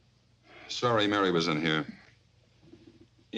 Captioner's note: sighs